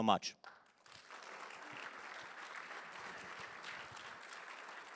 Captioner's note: applause